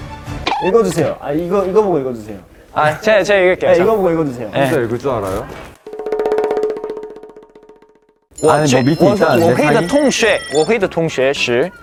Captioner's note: reading in Chinese